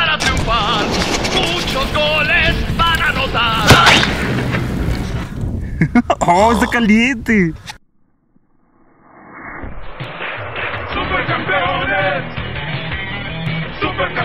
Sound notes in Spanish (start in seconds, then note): 4.1 Explosión; 8.7 Explosion; 10.1 sonidos de tierra